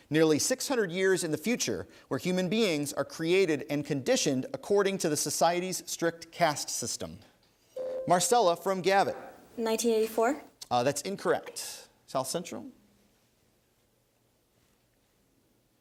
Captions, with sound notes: nearly 600 years in the future, where human beings are created and conditioned according to the society's strict caste system. (ding) Marcela from Gavit. >> 1984? >> That's incorrect. South Central?